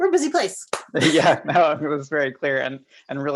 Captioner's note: both laughs